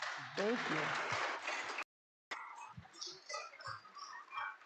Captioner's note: audience clapping